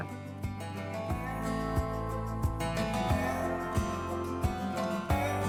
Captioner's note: gently chiming bells